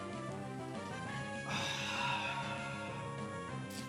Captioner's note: sighs